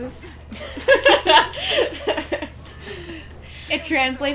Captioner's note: laughter